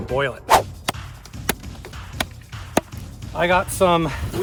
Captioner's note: ax chopping